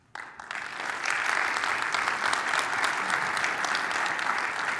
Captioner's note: audience applauding